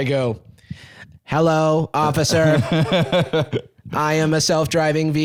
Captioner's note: robotically